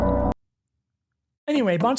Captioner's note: silence